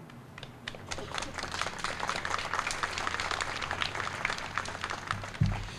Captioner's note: applause